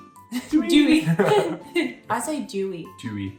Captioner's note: laughing